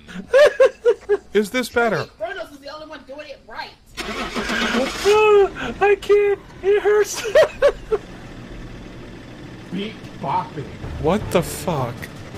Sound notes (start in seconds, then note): 3.9 van starts; 6.6 dying laughing still